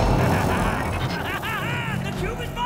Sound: yellowjacket laughing

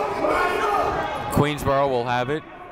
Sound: shouting

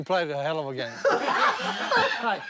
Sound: laughter

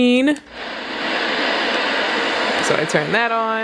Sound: white noise

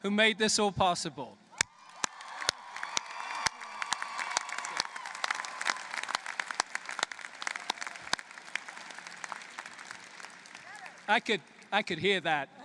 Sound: applause

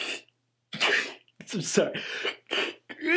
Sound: begins to sneeze

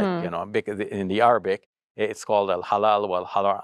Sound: speaks Arabic

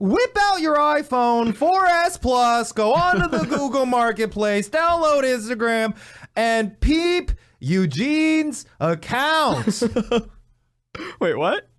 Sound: laughs

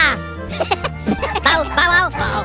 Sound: Minions Laughing

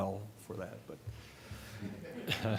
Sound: laughter

